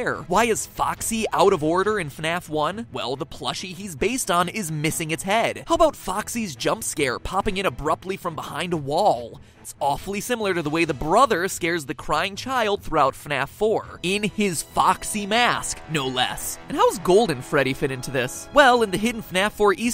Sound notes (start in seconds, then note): none